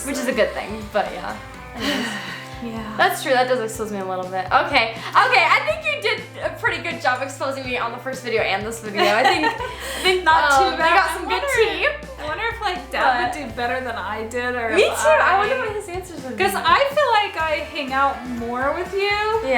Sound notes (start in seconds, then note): 1.7 sighs